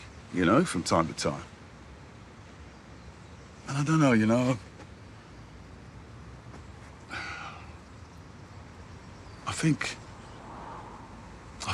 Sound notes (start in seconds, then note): 7.0 he sighs